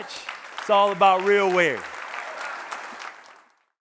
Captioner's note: audience applauding